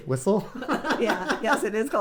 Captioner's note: laughing